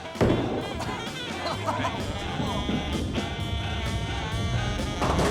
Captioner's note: sound of bowling ball rolling; ball hitting pins